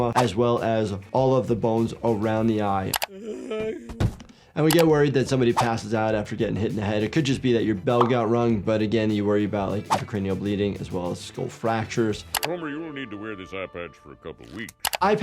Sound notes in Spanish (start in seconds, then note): 3.0 Homero gime